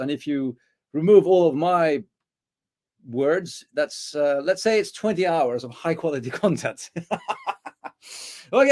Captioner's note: laughs